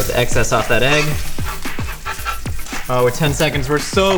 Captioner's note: scraping griddle